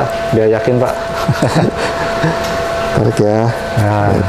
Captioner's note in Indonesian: tertawa kecil